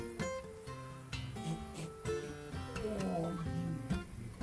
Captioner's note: sounds of satisfying defacation